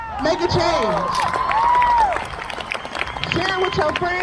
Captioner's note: crowd cheers